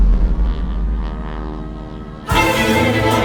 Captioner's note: explosion; airplane whirring